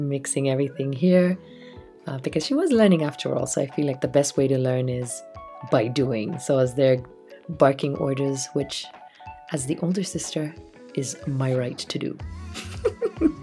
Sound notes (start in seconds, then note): 12.5 laugh